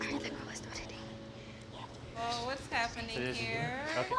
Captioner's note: whispers